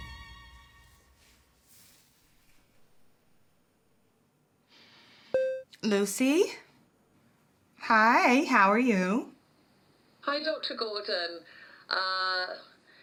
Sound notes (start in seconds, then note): 5.3 computer beeps